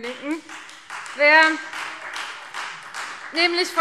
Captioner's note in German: Beifall Freie Demokraten